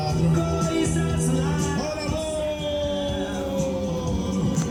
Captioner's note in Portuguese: rádio tocando